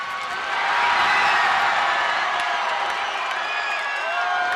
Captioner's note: crowd cheering